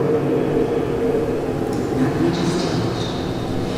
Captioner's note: whispers: not much has changed